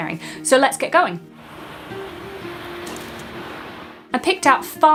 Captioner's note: waves rushing